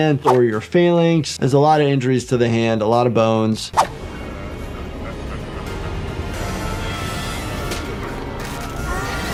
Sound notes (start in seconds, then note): 3.7 screen whooshing; 3.9 monster laughing maniacally; 7.1 dramatic music